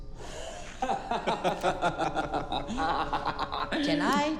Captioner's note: both laughing